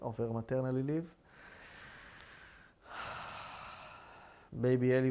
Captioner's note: sighing